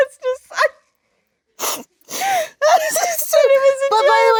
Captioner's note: Jennifer and Lisa laughing